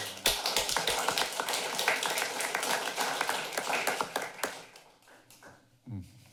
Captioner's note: clapping